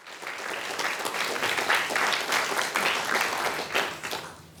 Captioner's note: applause